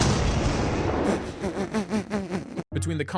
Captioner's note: laughter